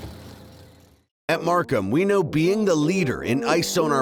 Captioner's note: voiceover